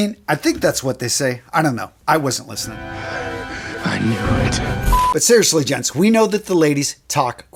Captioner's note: sound effect